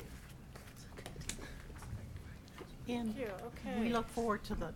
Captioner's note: people chattering